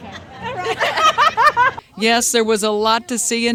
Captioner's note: ladies laughing